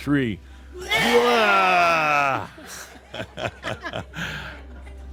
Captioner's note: Adamus chuckles